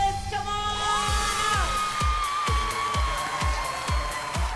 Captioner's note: cheering, whooping